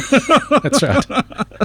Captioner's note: laughing